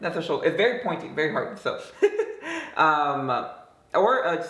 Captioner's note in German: lacht